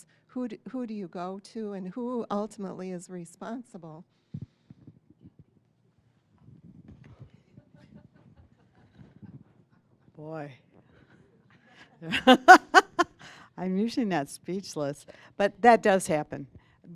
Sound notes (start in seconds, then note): 12.0 laughing